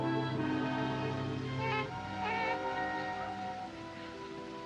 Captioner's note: cooing